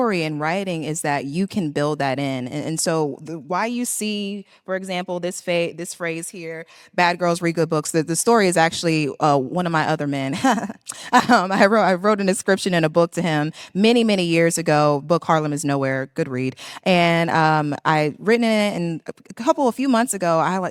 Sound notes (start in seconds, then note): 11.0 laughs